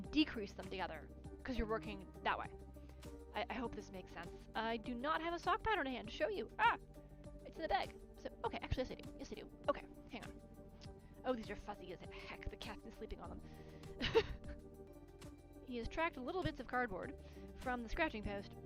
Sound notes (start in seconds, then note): 14.0 laughs